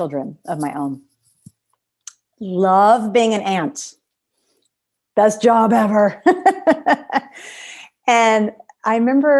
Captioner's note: laughter